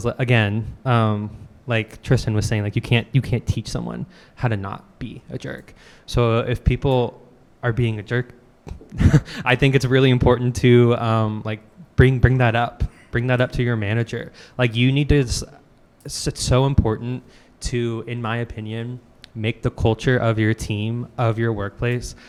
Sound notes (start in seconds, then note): 8.7 chuckles